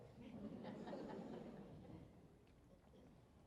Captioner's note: laughter